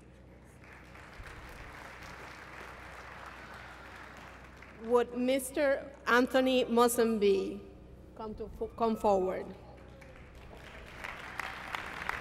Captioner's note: applause; applause